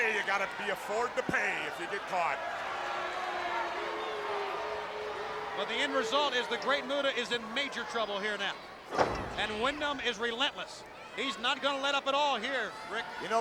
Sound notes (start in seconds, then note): 3.3 crowd booing; 8.9 elbow thuds